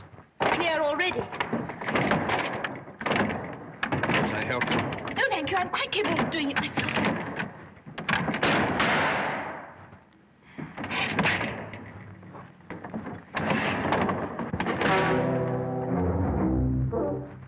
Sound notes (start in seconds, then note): 8.0 clangs loudly; 14.9 comical music plays